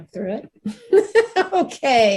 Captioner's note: laughs